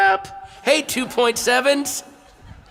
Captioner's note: chuckles